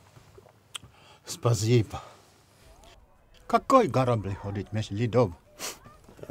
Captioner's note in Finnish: venäjäksi